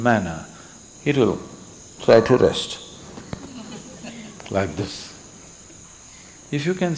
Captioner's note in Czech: Smích